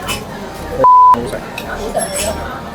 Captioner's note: beep